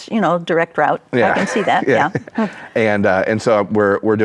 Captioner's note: chuckles